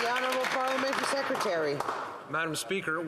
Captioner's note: some Applause